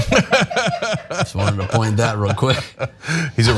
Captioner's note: laugh